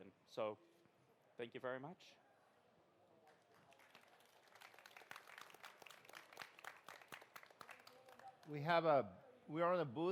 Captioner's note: applause